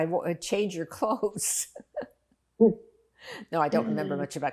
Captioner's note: laughing